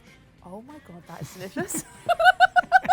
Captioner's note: laughs